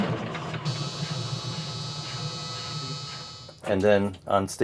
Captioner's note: electronic buzzing